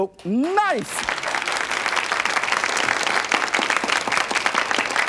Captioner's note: audience clapping